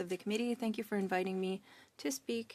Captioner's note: speaking French